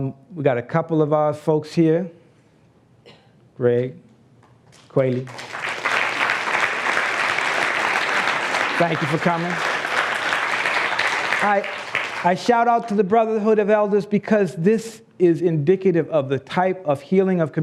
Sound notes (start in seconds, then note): 5.0 applause